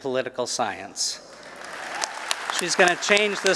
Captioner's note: applause